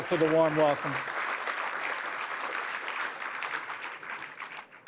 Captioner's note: applause